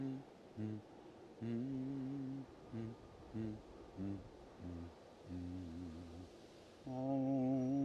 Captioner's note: mealworm continues humming